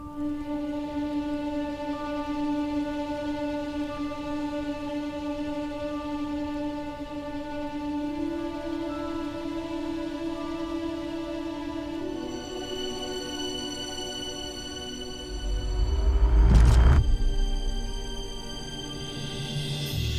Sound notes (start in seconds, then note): 0.2 melodramatic music playing; 15.2 hollow echo sound; 17.8 music swells